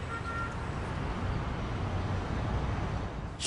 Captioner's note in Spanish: Ruidos del tráfico